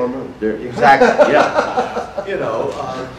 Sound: audience laughter

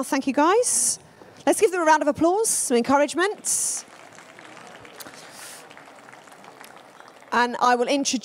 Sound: applause

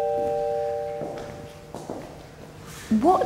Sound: heels clack

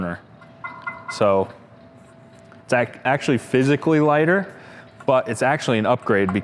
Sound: taps on burner

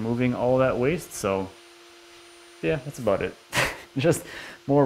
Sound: chuckles

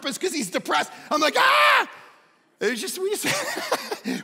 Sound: laughing

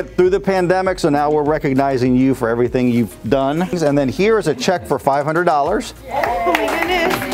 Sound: crowd - Yay!

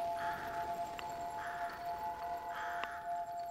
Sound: line ringing

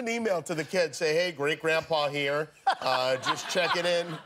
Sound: laughter

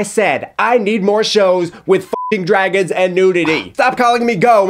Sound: beep

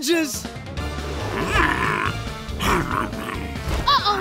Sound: grunting

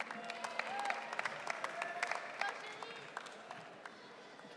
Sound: audience cheering

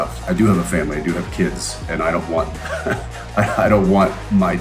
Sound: laughs

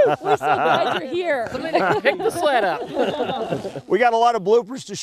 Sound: laughter

